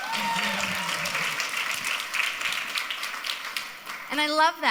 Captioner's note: crowd applauds